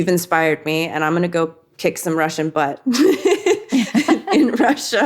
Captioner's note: laughs